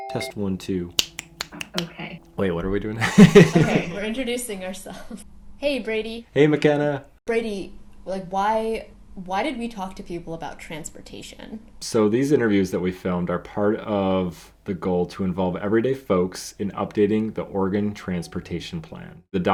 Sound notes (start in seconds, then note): 3.0 laughs